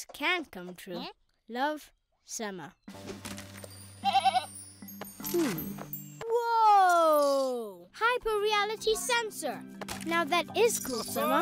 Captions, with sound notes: - "Dreams can come true. Love, Sema." (bleating) Hmm... Whoa! Hyper-reality sensor!